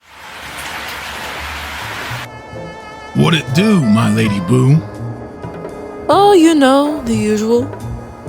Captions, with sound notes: (Rain falling) What it do, my lady boo? Oh, you know the usual.